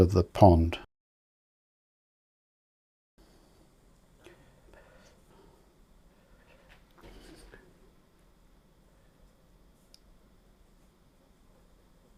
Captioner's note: silence